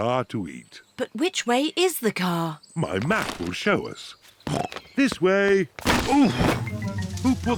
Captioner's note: snorts